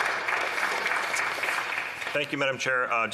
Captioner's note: some Applause